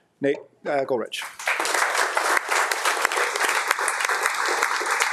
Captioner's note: attendees clapping